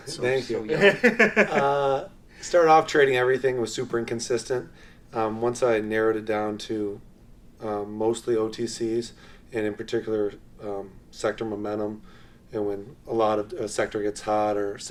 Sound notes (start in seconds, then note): 0.6 laughs loudly